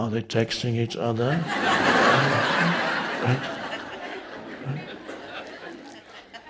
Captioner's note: audience members laughing